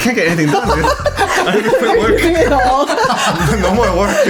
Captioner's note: laughing